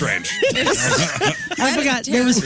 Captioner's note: laughing